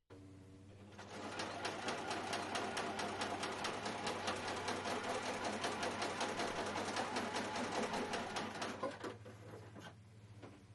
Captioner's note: sewing machine